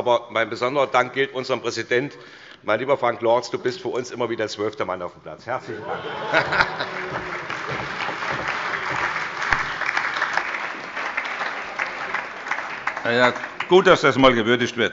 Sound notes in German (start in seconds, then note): 7.8 Allgemeiner Beifall - Heiterkeit